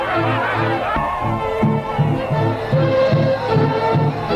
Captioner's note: group cheering